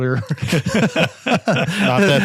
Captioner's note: group laughs